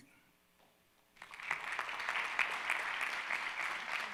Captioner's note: all claps